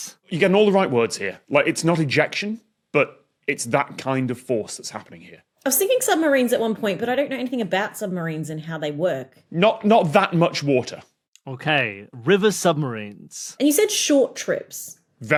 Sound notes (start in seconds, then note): none